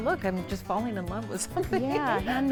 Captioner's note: laughs